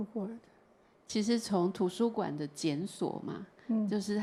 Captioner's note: Mandarin